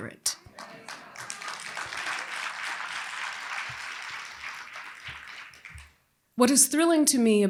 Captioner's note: applause